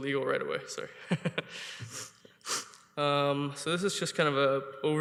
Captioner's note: chuckling